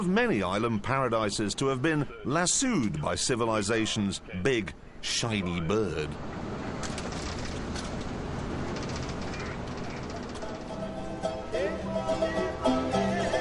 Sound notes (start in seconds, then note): 5.1 bird squawks